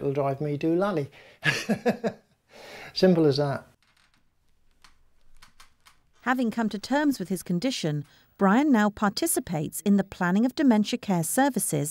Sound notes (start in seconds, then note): 1.4 laughs